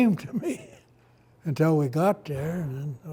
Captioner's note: laughs